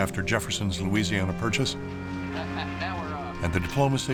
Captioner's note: chuckling